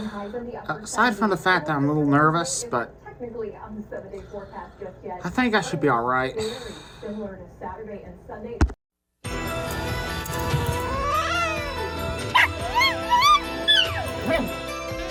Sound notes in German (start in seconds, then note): 10.4 Caprice zischt und jault dann; 12.2 Ella bellt und heult dann